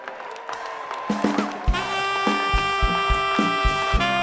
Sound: audience applauds; slow jazz music

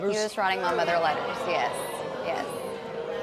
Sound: audience jeers

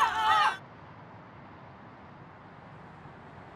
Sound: motorway ambience

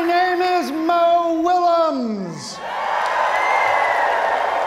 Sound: audience cheering and clapping

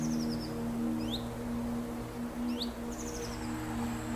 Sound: birds chirping

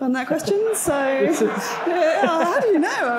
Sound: audience laughing

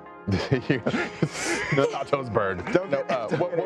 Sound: laughing

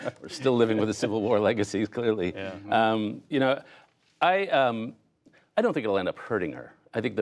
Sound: laughter

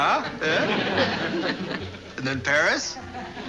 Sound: Ann laughs

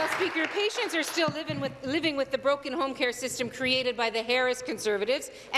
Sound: applause

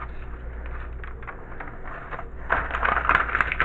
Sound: paper flipping

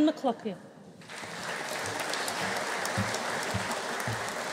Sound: audience applauding

